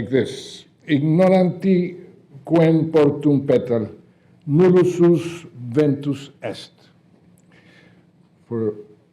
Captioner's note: speaking latin